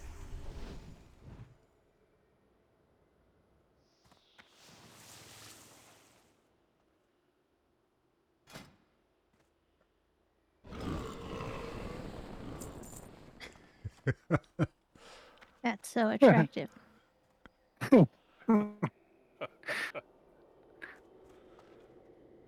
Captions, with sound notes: [LAUGHTER] That's so attractive. [LAUGHTER]